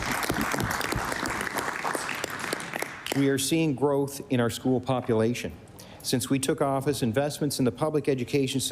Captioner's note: applause